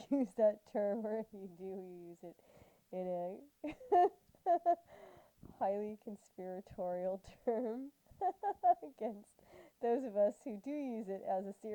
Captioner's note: laughter